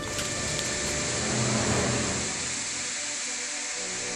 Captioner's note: ashes burning sound